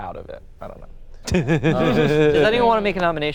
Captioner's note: laughing